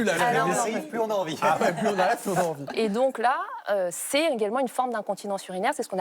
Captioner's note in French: rires